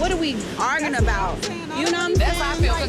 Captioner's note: people speaking indistinct; tense hip-hop music